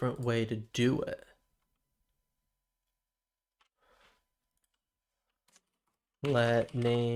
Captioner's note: silence